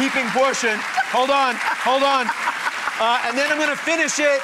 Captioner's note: laughs